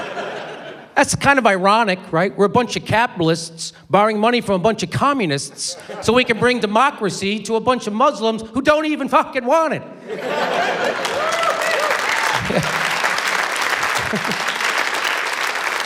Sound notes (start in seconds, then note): 10.7 cheering, applause; 13.9 chuckles